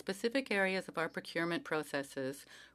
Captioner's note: speaking French